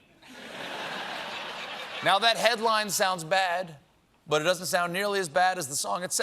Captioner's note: laughter